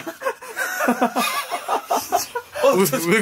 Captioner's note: everyone's laugh